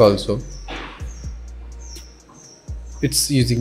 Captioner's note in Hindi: पक्षियों के चहचहाने की ध्वनि